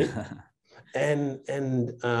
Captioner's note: chuckling